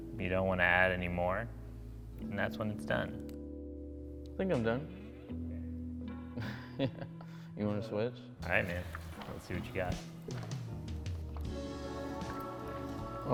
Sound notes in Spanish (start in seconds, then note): 6.3 risas